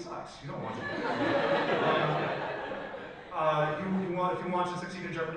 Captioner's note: audience laughs